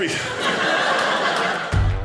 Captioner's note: audience laughing